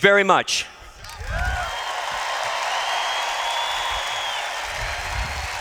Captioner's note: cheers